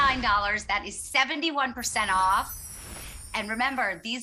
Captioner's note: twinkles